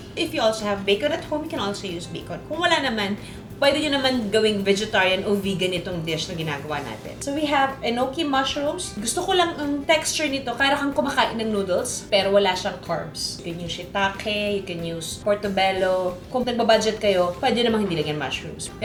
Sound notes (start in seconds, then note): none